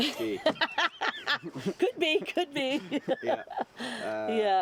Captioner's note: laughter